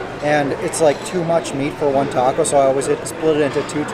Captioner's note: none